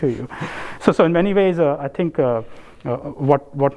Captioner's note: laugh